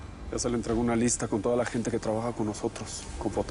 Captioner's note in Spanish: none